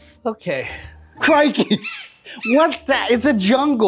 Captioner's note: laughs; monkeys chattering